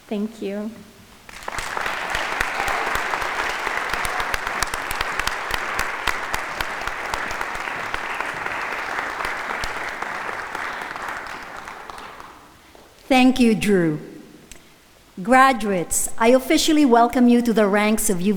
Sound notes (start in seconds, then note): 1.4 audience applauding